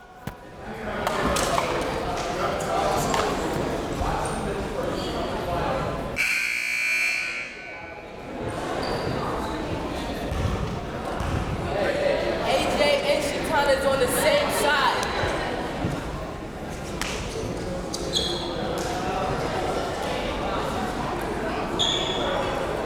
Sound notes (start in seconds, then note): 0.0 crowd members talking; 6.2 buzzer ringing; 8.1 crowd members talking